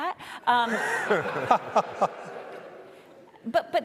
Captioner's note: audience laughing